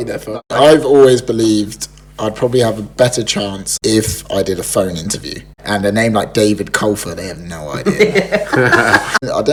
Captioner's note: laughs